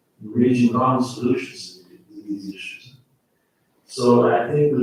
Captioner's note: faintly speaking